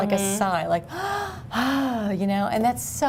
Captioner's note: exhales